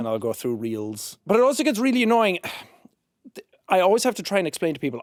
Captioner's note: sighs